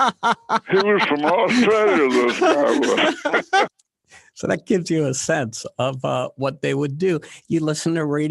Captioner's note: laughter